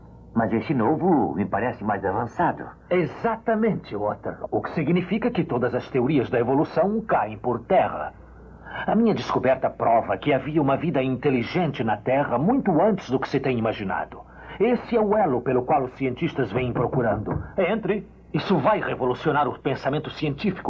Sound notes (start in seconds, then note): 16.4 knocks